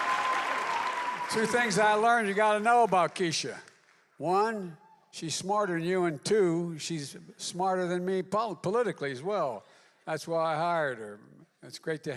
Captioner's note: applause